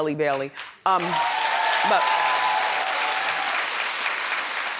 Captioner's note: audience applauds